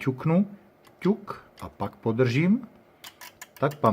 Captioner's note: click